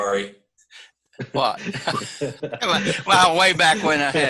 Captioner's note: laughs